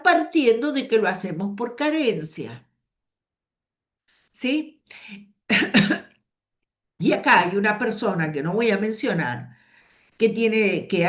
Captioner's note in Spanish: carraspeo